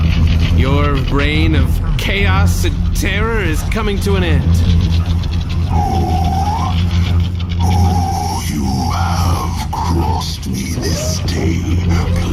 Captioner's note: snarling